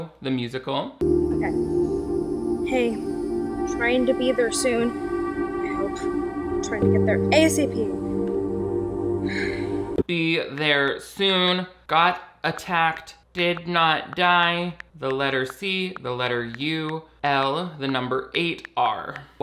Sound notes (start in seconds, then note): 1.1 gentle music; 9.2 sighs